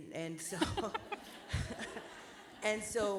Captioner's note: laughter